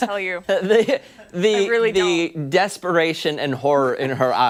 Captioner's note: laughter